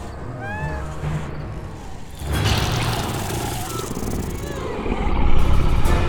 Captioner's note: Steph whimpering; creature growling